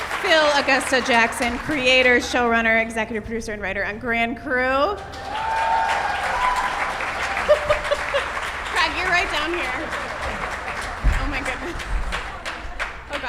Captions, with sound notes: Phil Augusta Jackson. Creator, showrunner, executive producer, and writer on Grand Crew. (cheers) - (laughs) Craig. You're right down here. Oh my goodness.